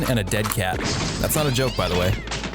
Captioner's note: gun bangs; cat screams